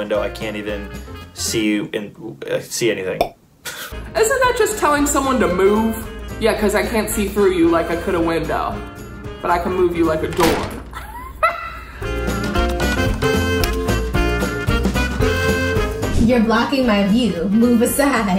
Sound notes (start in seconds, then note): 10.9 laughs; 12.0 upbeat music